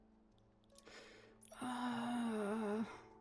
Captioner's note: sighs